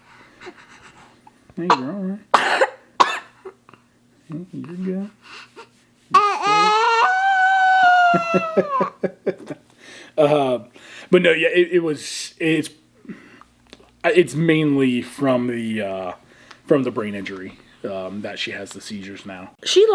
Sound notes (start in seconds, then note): 2.3 coughs; 6.1 groans